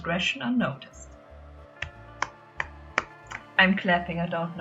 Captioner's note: clapping